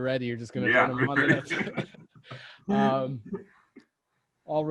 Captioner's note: laughs